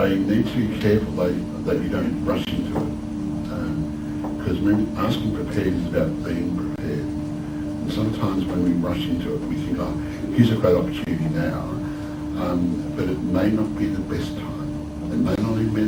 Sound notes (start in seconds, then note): none